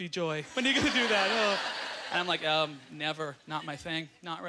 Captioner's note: audience laughter